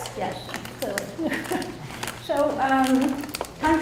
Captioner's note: laughs